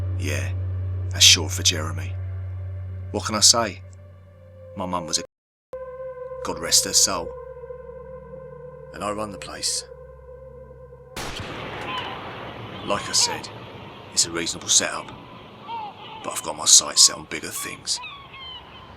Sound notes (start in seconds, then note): 11.2 gun blasting; 11.3 seagulls cawing